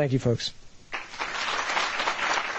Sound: applause

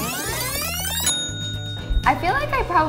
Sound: tape fast forwarding; bell dings

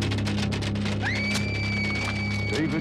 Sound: she screams

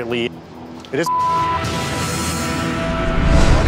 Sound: beep

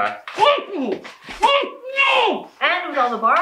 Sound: male captive shouts muffled

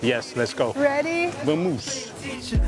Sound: in Portuguese

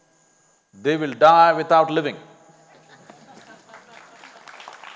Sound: applause

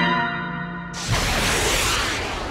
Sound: rocket ignition

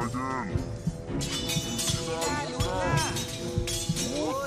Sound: blades clanging

